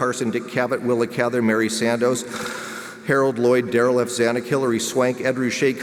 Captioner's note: inhales